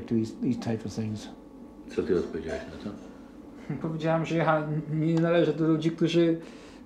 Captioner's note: speaking Polish